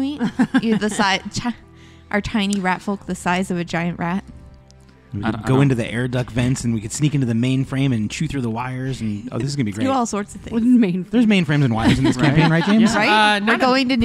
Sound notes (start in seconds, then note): 11.8 laughing